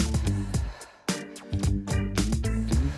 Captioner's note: exhaling